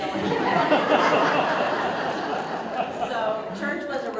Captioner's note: audience Laughter